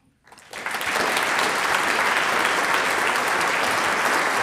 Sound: audience applauds

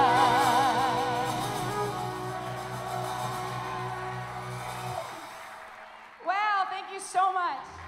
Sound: applause as song ends

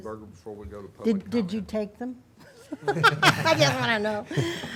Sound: laughs

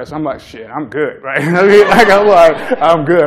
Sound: laughter

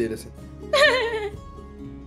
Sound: laughs

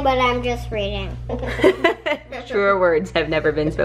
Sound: laughing

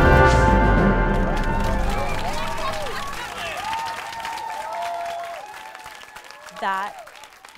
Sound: crowd gasps; applause

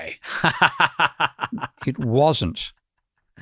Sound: laughs

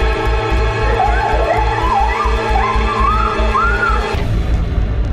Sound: scream

